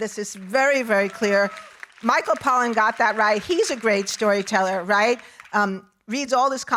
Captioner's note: audience applauding